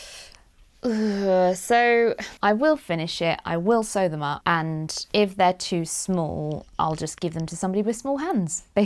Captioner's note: sighs